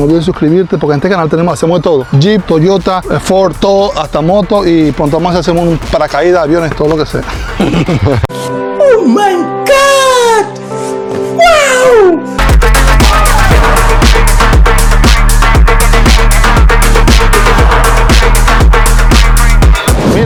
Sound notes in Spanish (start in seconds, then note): 11.0 risas